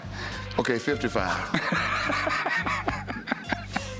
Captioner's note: laughter